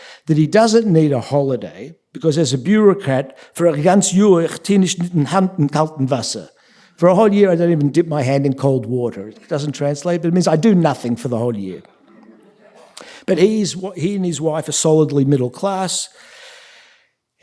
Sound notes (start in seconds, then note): 3.5 speaking yiddish